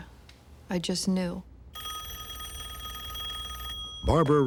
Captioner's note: phone ringing